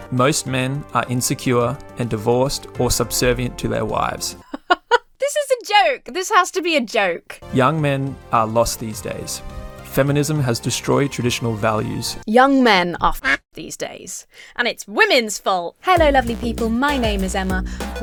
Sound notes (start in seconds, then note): 4.4 laughs; 13.3 duck quacks